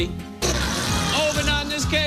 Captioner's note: farting noise